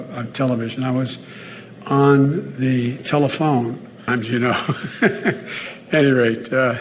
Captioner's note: Biden laughing